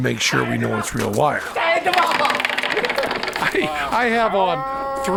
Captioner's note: non-english speech